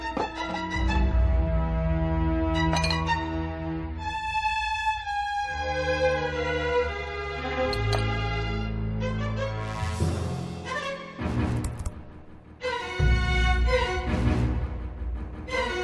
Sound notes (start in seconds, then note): 11.6 typing sound